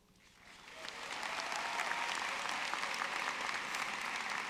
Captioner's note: audience clapping